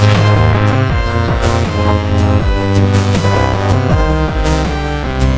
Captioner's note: thunderclap